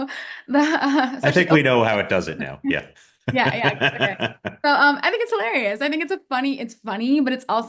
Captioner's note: polite laughs